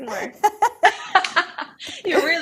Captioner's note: both laugh